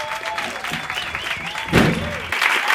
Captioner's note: applause